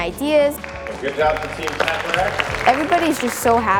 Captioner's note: applause